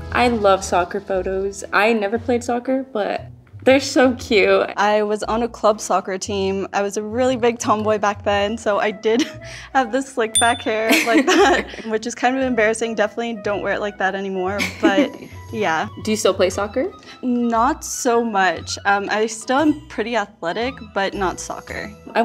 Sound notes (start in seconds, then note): 10.3 bell dinging; 10.8 laughing